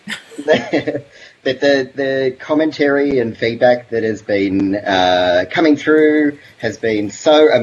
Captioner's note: laughs